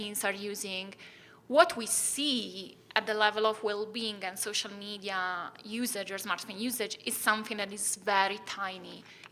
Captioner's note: none